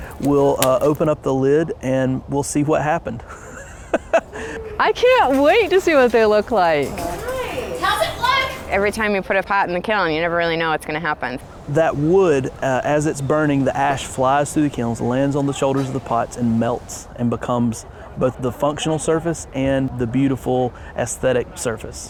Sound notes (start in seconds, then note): 3.2 laughs; 6.7 crowd